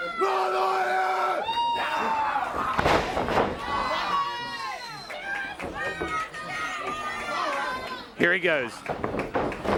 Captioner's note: crowd chatter